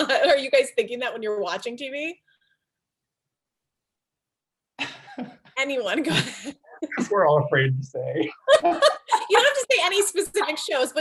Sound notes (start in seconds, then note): 4.8 participants laugh; 8.3 participants laugh